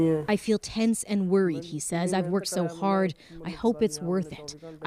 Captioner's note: speaking Foreign Language